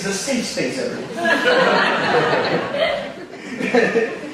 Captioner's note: audience laughing